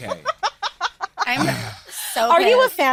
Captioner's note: laughing